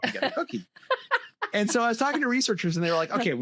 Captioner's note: laughter